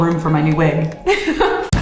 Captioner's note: laughs; bright music plays